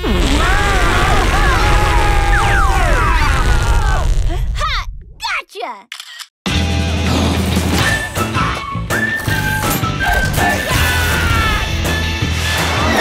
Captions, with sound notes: [all screaming] -Huh. Gotcha! -[camera clicks] [intro music playing] Aah!